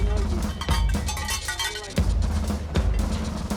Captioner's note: bell jingling